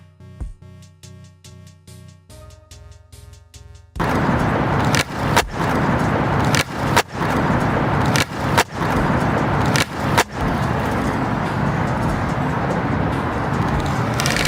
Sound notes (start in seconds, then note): 0.2 upbeat music; 4.4 skateboards rumbling